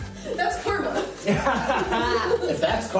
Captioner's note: laughter